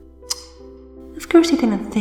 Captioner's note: tsk